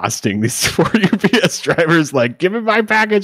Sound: laughing

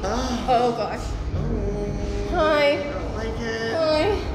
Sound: groans; scared

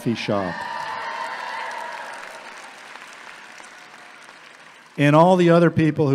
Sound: audience applauding

